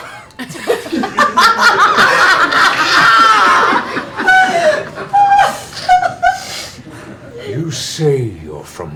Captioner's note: laughter